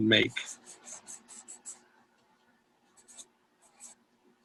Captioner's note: pencil squeaking